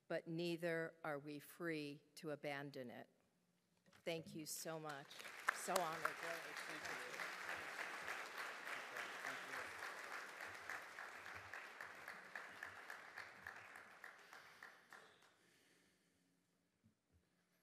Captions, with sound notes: but neither are we free to abandon it. Thank you so much. So honored, really, thank you. (audience applauding)